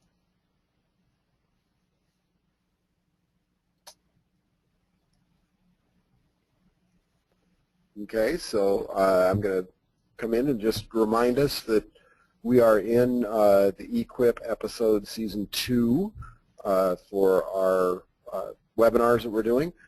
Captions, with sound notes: - [Voiceover] Okay, so I'm gonna come in and just remind us that we are in the Equip Episode Season 2 for our webinars that we're doing.